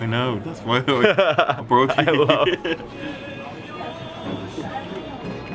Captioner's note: laughs; speaks in foreign language